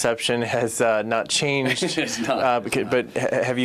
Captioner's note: laughs